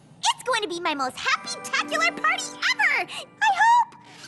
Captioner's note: none